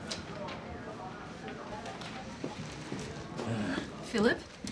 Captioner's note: people chattering